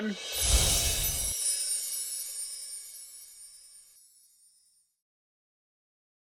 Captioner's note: bells chiming; scene whooshing